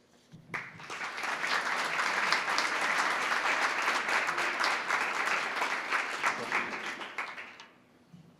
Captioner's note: applause